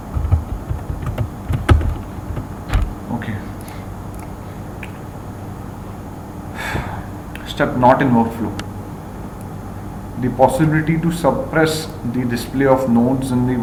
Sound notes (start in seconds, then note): 6.6 sigh of Relief